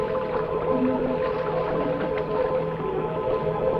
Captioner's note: water splashing